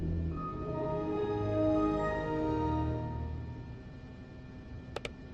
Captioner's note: Windows startup; mouse clicking